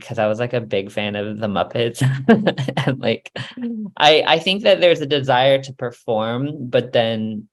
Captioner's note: laughs